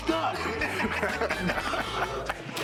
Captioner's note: laughs